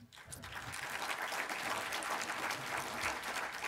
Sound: applause

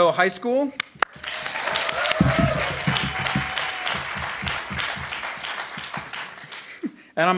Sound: audience applauding

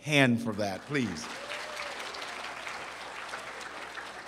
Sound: applause

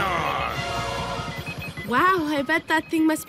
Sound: beeping

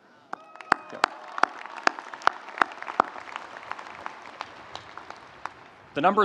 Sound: audience applauding; audience cheering

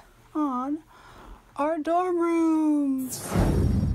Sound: passing swish

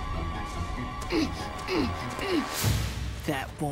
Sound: grunting

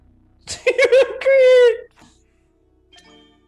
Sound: laugh

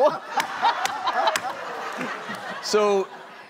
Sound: hitting hammer

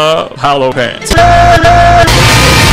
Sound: in "cowboy" voice

